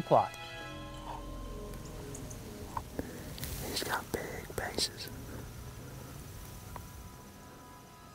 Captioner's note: whispering